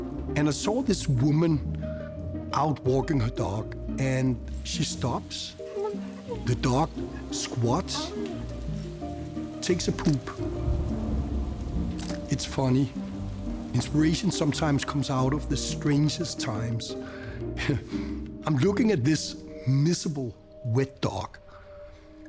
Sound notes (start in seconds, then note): 16.8 chuckles